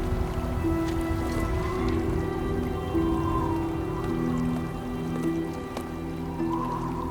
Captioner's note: wind blowing